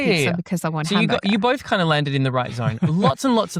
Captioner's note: laughs